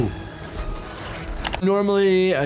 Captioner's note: keyboard clacking